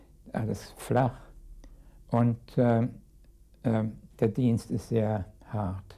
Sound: speaking in a foreign language

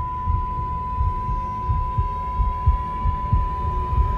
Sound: beeping

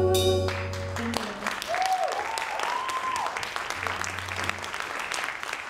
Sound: audience applauding

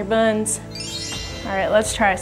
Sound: bells tinkling

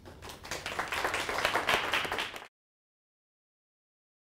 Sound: audience applauds

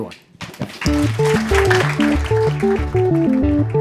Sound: applause

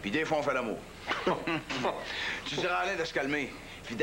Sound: Ils rient

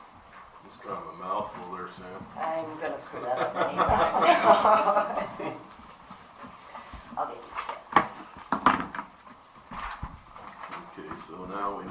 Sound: laughter

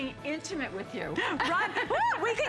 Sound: laughter

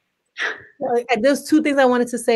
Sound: laugh

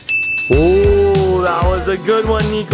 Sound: ding

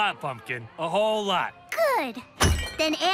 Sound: glass rattles

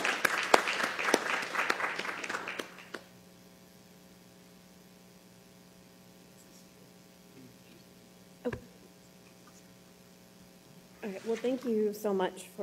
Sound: applause

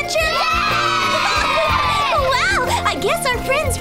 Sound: kids cheering

